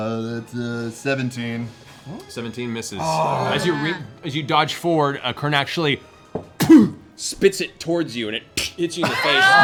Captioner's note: squelch